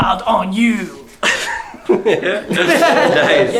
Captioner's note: laughter